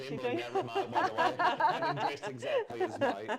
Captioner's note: laughter